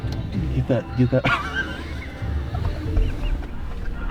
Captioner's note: laughing